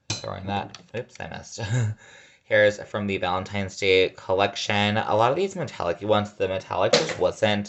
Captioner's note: laughs